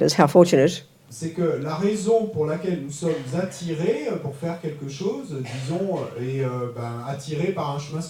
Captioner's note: French